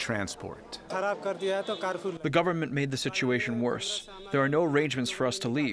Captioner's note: through translator